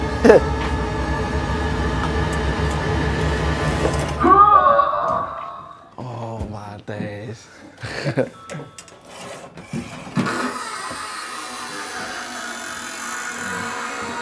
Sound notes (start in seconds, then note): 0.7 tense music; 4.2 scream; 10.5 creaking